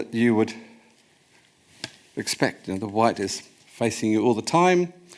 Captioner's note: none